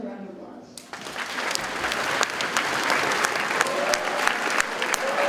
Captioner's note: audience cheers and applauds